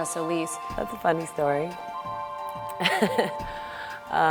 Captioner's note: laughs